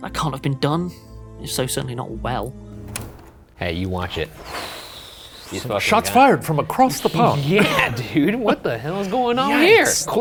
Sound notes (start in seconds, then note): 4.1 huffs